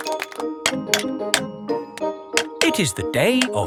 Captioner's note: clanking